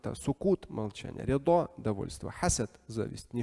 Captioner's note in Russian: Говорит на арабском